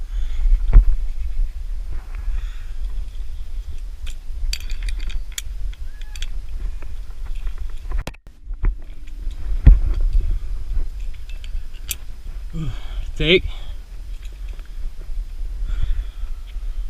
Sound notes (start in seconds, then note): 12.5 sigh of relief